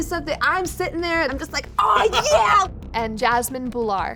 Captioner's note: laughs